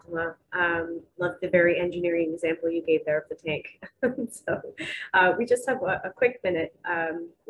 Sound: chuckles

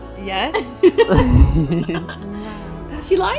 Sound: laughs

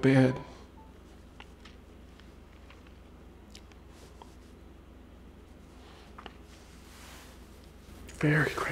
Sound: silence

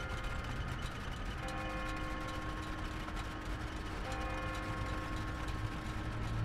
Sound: church bells ringing in distance

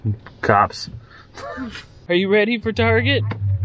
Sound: laughing

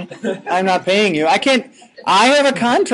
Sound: students laughing

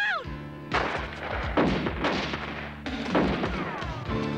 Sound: guns roaring

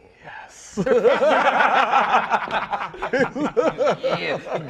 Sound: laughter

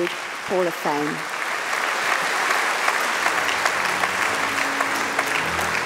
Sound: audience clapping

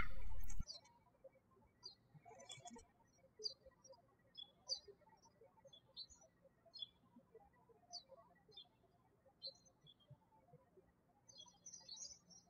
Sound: birds chirping

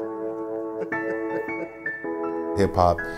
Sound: laughing

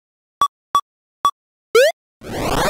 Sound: video game beeping

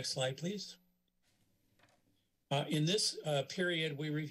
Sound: rustling

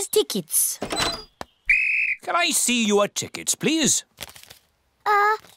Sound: blows whistle

